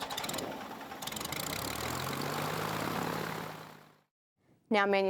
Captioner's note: engine sound